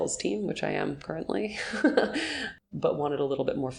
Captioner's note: chuckling